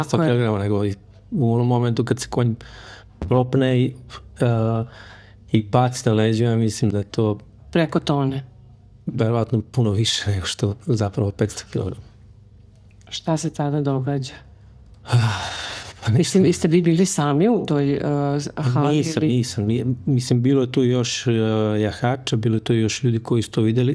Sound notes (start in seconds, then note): 15.1 sigh